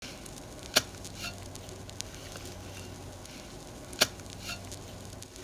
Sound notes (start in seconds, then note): 0.0 sound of shovel digging in dirt